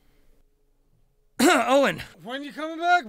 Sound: clears throat

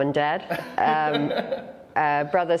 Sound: laughter

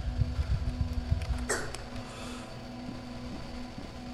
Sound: heart beat fades

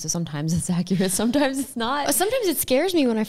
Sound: laughs

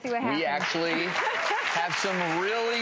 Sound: crowd applauds

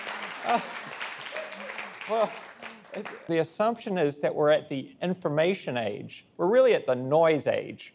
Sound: applause

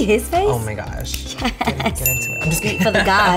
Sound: bell dings

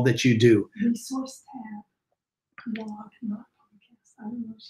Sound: lady speaking faintly

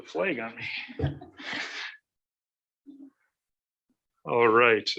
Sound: laughing

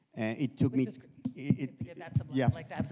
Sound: speaking faintly

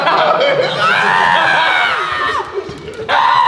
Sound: JJ laughs; JJ screams

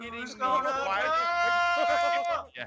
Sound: laugh

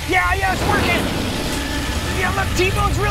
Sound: roaring

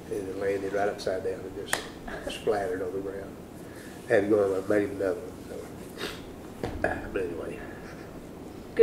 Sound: laughter

